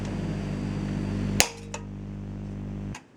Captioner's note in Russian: не громкий щелчок